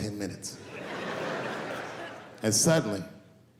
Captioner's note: laughing